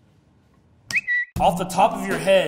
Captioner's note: bird chirping